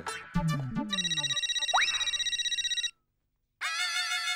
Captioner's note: cell phone ringing